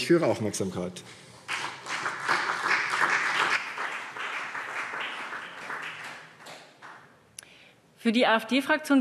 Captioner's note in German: Beifall